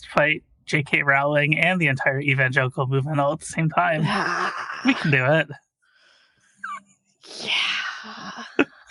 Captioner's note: laughs